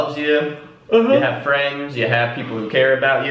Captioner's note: yawns